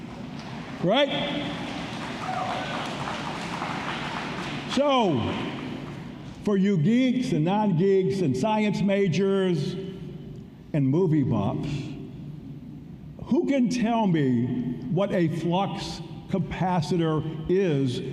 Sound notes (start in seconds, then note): 4.0 applause